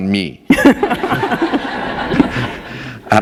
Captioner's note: laughter